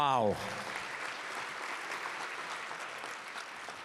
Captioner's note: applause